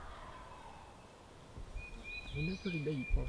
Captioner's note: turkey gobbles